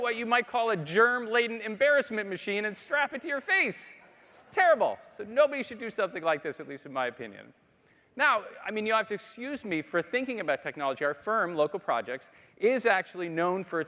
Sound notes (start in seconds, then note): 3.7 audience laughing